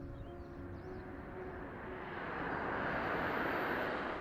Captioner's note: car engine noise